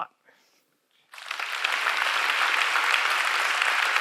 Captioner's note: audience applauding